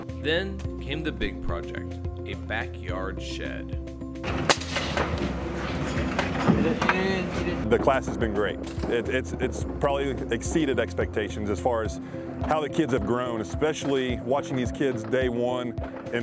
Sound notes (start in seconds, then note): 4.3 nail gun firing